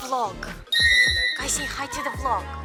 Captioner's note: random high pitch sound